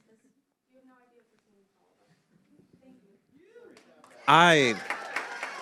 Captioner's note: applause